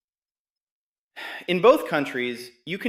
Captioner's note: sighs